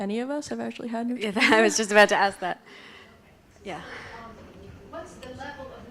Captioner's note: chuckles